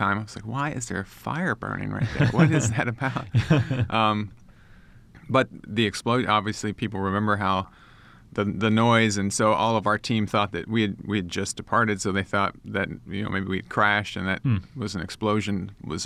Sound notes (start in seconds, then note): 4.9 chuckles